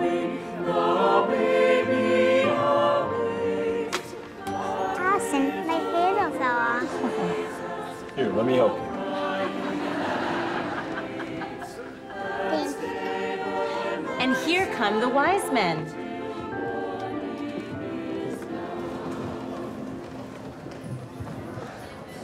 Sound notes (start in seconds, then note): 9.0 crowd laughs; 18.2 crowd tittering